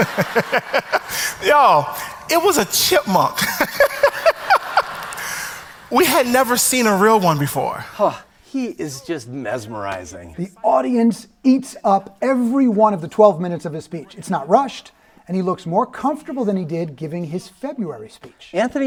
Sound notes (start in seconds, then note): 0.0 audience laughs; 3.2 laughs; 4.1 audience laughs